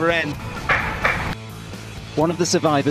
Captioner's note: gunshots